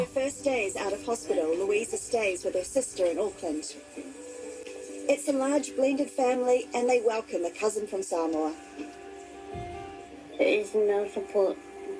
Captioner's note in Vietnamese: Tiếng ti vi